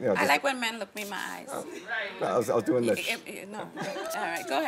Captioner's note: laughing